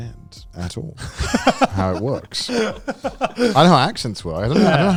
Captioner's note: laughing